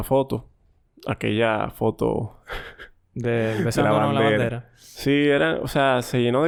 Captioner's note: laughs